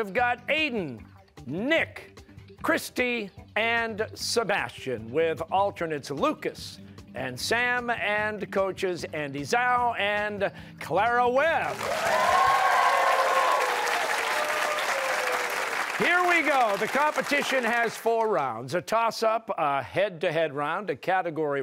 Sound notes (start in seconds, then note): 13.2 cheers and applause